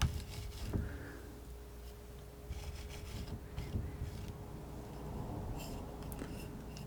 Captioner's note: scratching